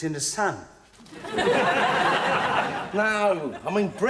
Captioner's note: audience laughing